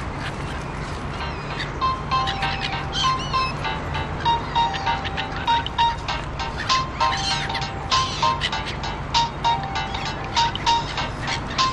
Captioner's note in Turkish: telefon çaliyor